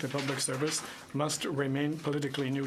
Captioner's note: speaking French